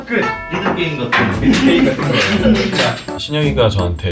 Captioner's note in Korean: 웃음소리